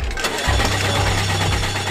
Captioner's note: car engine coughing